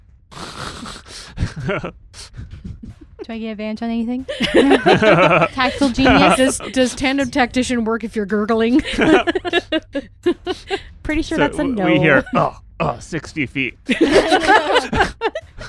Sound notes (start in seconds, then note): 1.4 laughter; 4.2 laughter; 8.7 laughter